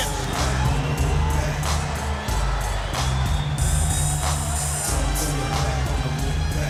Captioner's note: crowd jeering; upbeat music continues